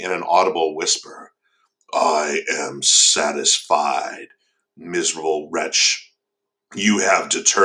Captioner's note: deeper voice